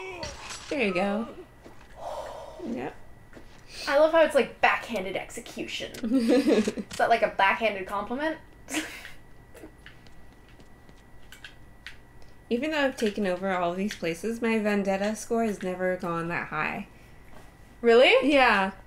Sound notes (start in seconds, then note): 1.9 exhale